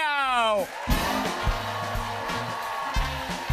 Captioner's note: cheers and applause